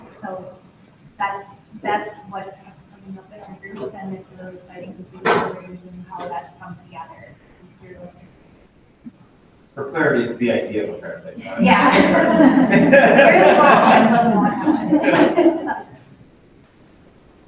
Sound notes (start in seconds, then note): 11.4 both laughs